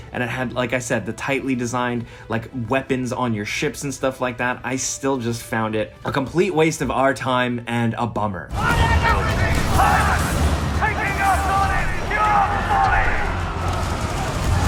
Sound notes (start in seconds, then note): 8.5 characters yelling